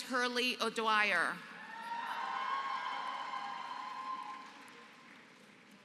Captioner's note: applause